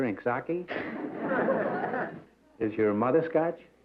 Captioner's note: laughter